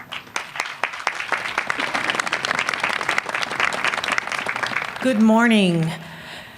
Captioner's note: applause